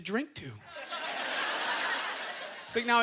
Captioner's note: audience laughter